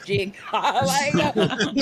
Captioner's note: laughing